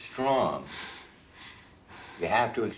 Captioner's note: breathing heavily